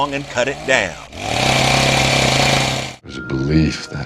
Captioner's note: chain saw